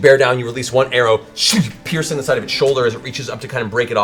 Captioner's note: shoomf